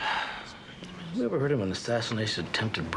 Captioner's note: sighing